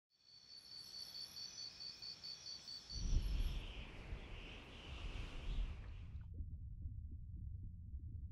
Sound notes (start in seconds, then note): 0.2 insects chriping; 3.0 winds blowing; 5.2 water burbling